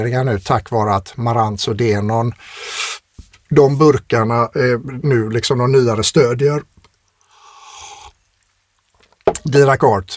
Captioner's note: scoffs